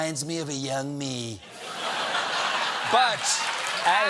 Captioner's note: cheers and applause